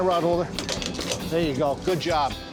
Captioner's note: clicking into place